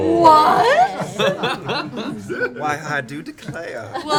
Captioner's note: laughter